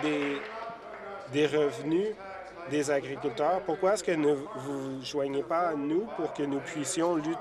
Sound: some Applause

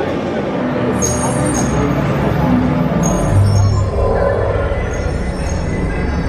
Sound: grid bleeping and humming

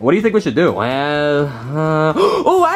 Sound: gasps

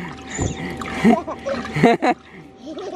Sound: laughs

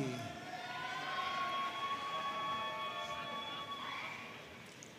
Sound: audience cheering and applauding

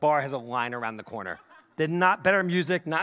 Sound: audience laughing

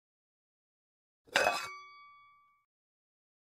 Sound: sound of pan

